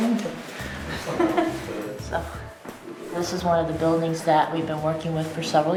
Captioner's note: laughing